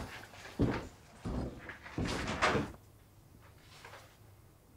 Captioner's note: footsteps thudding